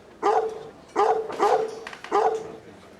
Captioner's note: strident barking